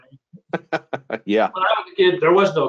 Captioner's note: laughs